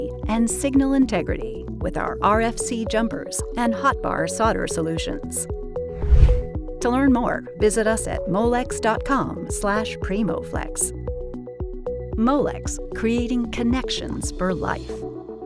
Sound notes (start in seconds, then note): 5.9 screen whooshing